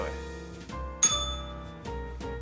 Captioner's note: bell rings